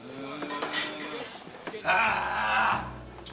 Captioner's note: groaning